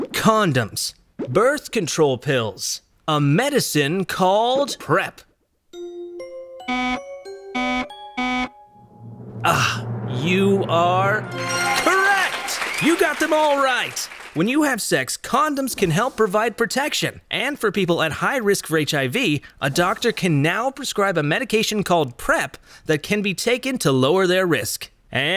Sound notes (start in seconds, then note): 5.8 buzzer